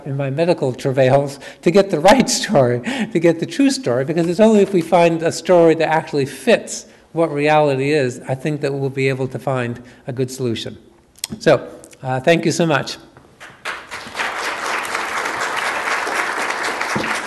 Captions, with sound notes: in my medical travails, to get the right story, to get the true story, because it's only if we find a story that actually fits what reality is, I think, that we'll be able to find a good solution. So, thank you so much. (audience applause)